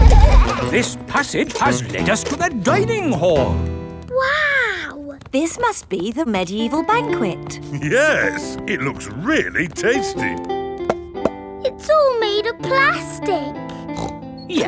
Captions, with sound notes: This passage has lead us to the dining hall. Wow! This must be the medieval banquet. Yes! It looks really tasty! (HOLLOW TAPS) It's all made out of plastic! (SNORTS)